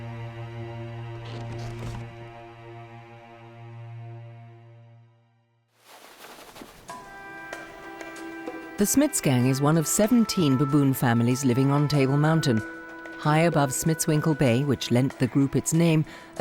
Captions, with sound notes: (fur ruffling) The Smits gang is one of 17 baboon families living on Table Mountain. High above Smitswinkel Bay, which lent the group its name,